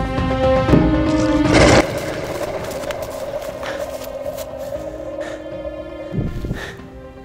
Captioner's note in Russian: рык